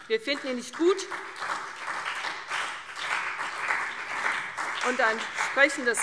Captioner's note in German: Beifall CDU und vereinzelt BÜNDNIS 90/DIE GRÜNEN